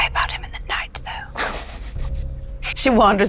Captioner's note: chuckling